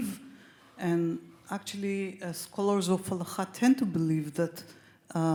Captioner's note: speaks Hebrew